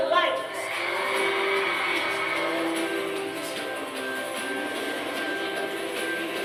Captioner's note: uplifting music; cheering crowd